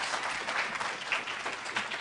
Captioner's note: applause